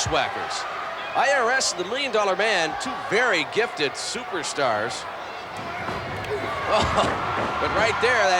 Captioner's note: laugh